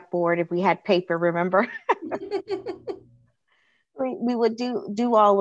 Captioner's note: laughter